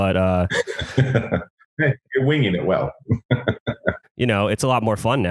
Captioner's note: laughs; laughs